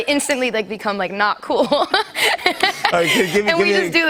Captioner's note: laughs